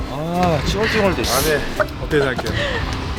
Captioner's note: whining